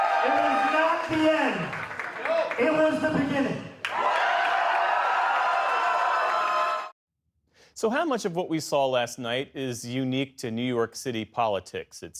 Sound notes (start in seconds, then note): 0.0 cheering; 3.8 cheering